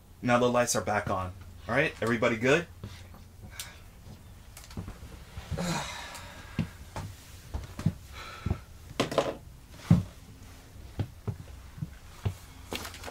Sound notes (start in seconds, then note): 3.6 Dennis sighing; 9.1 flashlight clanking; 12.7 paper rustling